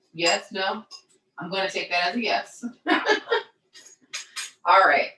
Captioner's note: laughs